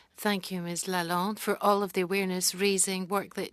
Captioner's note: speaking French